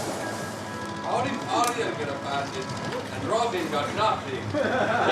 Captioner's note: speaks faintly; everyone laughs